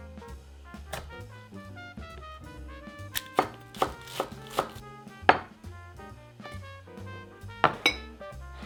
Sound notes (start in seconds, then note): 3.1 knife cutting